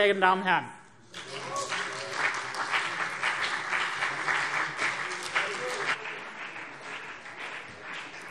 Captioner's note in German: Beifall CDU und BÜNDNIS 90/DIE GRÜNEN